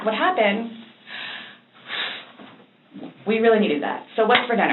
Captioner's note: breathes out